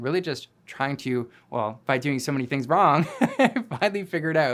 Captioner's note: laughing